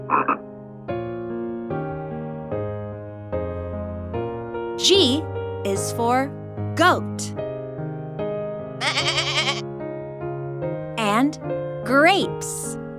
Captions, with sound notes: (frog croaks) G is for goat. (goat bleats) And grapes.